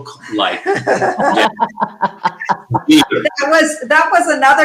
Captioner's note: everyone laughing